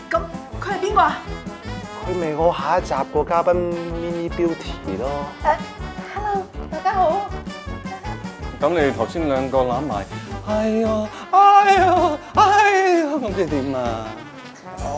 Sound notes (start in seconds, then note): 10.3 moans